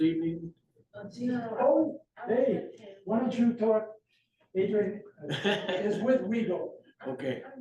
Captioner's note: laughter